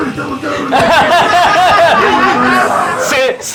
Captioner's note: laughs